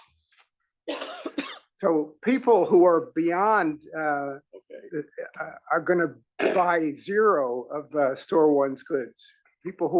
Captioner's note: cough